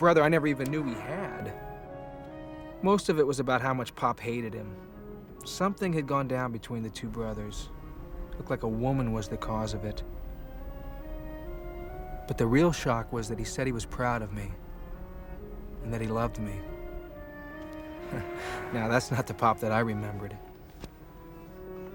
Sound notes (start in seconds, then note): 18.0 chuckles